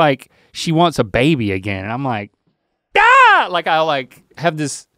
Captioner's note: screams